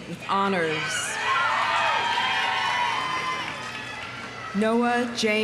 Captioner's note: audience cheering; audience applauding